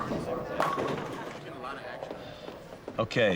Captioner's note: bowling pins crash in background